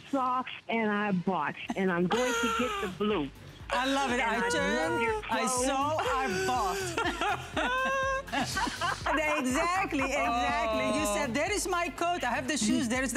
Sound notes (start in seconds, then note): 6.3 laughter